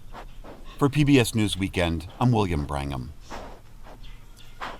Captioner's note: voice-over